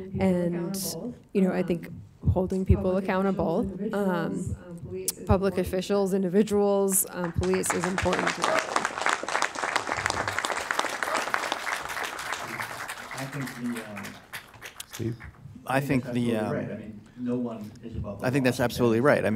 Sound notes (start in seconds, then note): 7.2 audience applauding